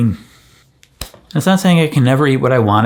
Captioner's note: hand smacking